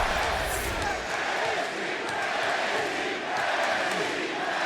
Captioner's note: crowd chants "NXT"